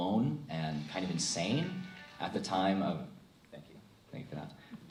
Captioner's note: phone rings